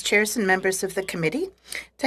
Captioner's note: speaking french